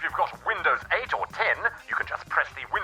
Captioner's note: phone rings